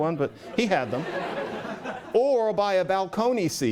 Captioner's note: laughter